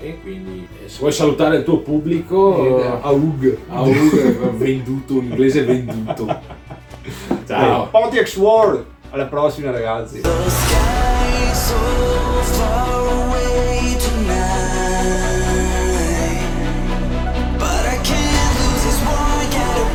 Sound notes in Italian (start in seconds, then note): 6.7 ridono scherzano